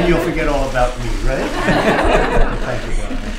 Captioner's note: laughter